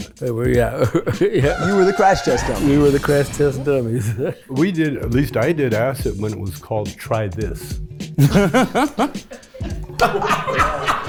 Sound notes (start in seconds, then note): 1.4 car screeches and crashes; 8.1 group laughs